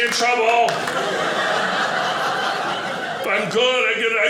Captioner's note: audience laughing